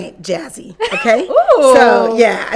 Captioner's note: laughing